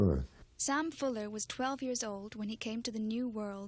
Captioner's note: voiceover